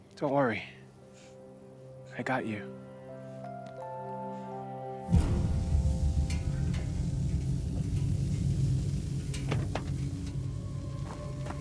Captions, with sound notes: Don't worry. I got you. (gentle music) (car hissing) (intense music)